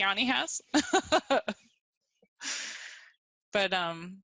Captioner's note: laughing